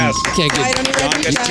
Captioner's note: clapping